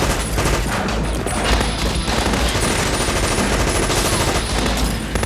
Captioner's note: guns firing